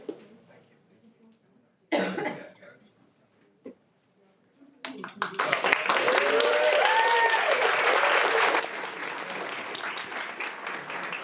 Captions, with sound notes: - Congratulations. - Thank you. (audience cheers and applauds)